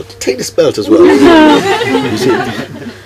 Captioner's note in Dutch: gelach